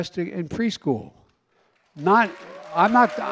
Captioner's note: applause